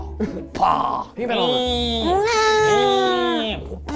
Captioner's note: imitating babies crying